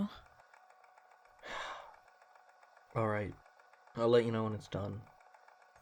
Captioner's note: sigh